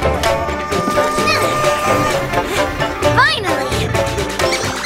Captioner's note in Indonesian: Hmph